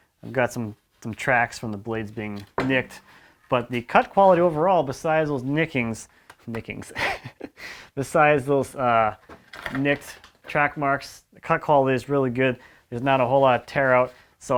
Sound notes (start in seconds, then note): 7.5 laughs